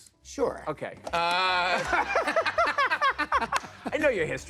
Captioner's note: laughter